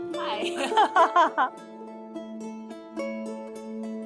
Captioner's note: both laughing; relaxed music continues